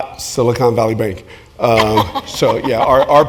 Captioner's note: laugh